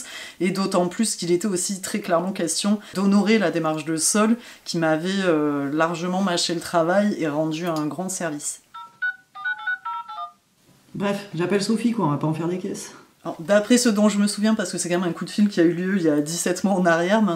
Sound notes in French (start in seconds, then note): 8.7 Sons de touches de clavier téléphonique